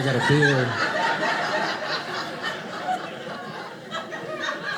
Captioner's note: audience laughing